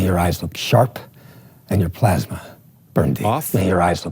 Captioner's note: movie dialogue plays